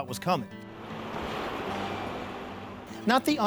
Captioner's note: wind blows